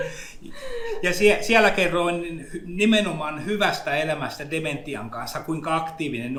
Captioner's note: giggles; speaks in Finnish language